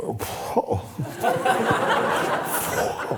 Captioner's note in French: rires